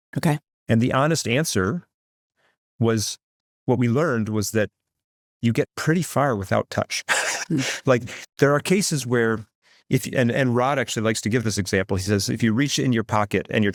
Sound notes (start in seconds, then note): 7.0 laughs